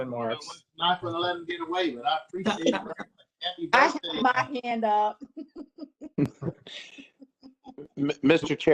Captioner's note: laughter